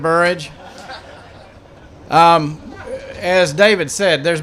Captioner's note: laughter